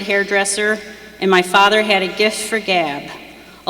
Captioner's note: none